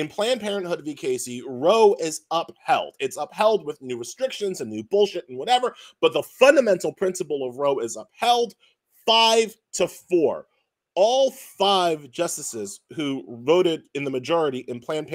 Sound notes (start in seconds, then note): none